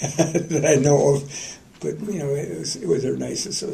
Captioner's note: laughter